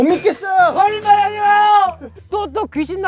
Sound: yelling

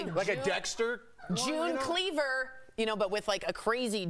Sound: laughter

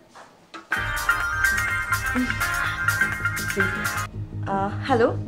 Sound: phone rings

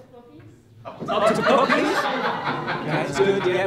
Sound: laughter

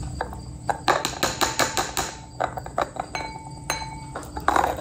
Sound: dish banging

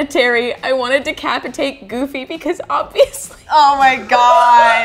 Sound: giggles

